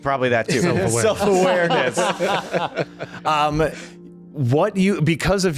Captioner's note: laughter